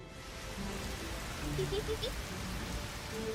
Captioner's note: sounds of rain